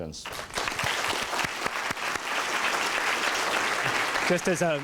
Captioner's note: applause